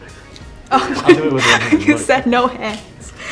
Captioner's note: giggling